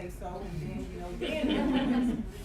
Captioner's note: laughing